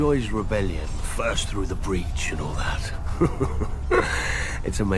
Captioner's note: chuckles